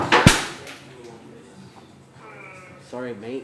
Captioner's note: crash